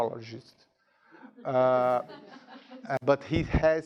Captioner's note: students laughing